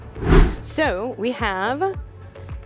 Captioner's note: air whooshing